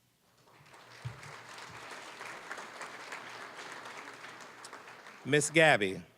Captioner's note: applause